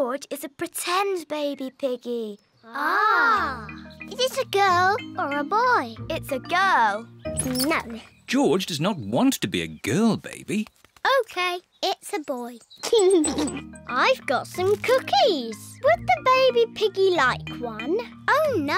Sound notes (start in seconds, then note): 12.9 giggles